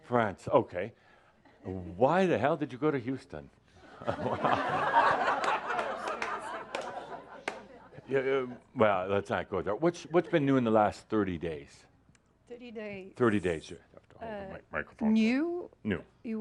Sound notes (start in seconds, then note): 3.8 laughter